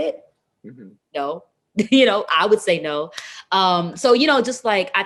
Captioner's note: laughs